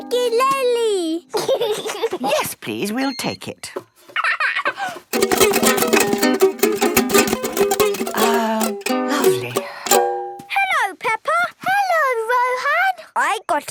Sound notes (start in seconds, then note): 0.0 gentle strumming; 1.3 giggling; 4.1 giggles; 5.0 vigorous, unpleasant strumming